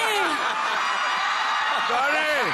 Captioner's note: laughter